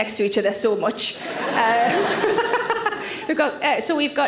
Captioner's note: audience laughs; Sarah laughs